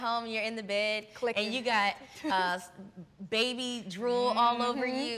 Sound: chuckles

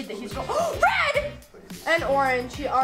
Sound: gasping

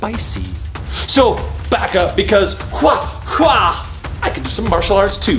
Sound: mimicking kicking sounds

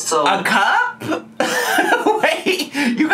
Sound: laughs

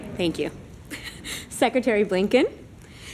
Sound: laughter

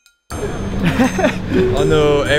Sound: nervously chuckles

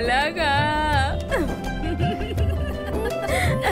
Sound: laughs

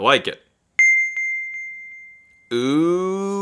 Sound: bell rings

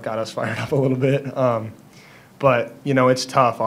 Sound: chuckles

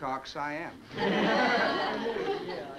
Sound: party goers laugh

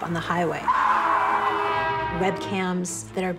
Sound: tires screeching; car horn blowing

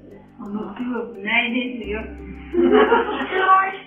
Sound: laughs

